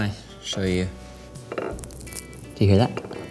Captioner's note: crackle